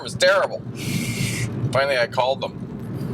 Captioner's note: inhales sharply